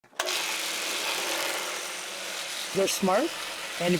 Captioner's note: machine buzzing